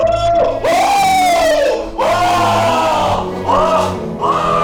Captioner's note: screams